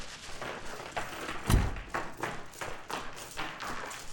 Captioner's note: car door closing